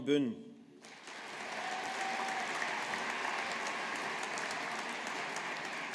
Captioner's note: audience applauding